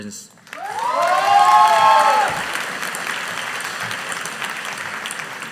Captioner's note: audience applauding